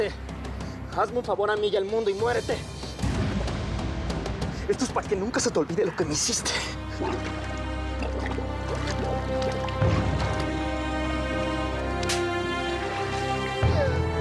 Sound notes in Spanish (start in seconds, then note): 6.9 ruido del agua al sumergir